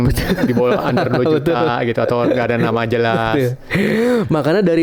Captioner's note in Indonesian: tertawa